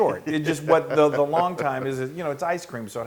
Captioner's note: laugh